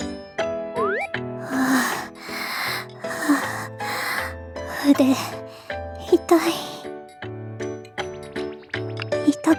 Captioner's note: pant